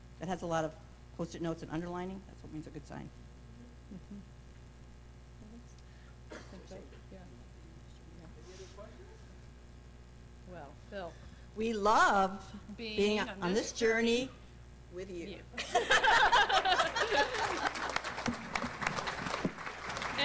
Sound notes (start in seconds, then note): 15.6 laughter; 16.7 applause